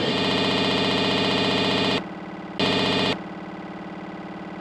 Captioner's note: buzzing sounds